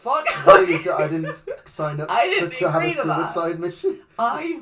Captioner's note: laughs